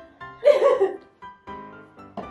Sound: laugh

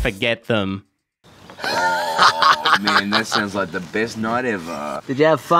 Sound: laughing

